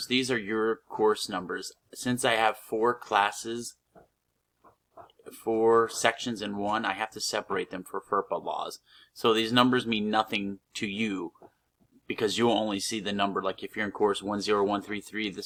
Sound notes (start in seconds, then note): 3.9 pause